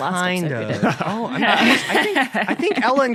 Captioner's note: guessers chuckling